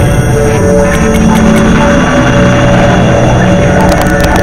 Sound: tapping; static

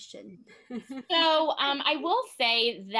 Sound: laughs

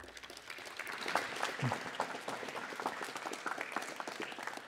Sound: audience applauds

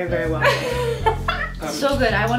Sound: laughs

